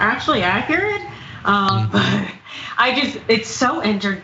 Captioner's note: laugh